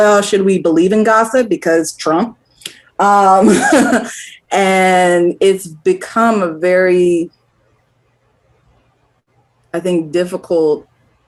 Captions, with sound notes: well, should we believe in gossip, because Trump. (LAUGHS) And it's become a very... ..I think, difficult...